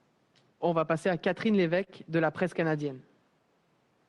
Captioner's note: speaks French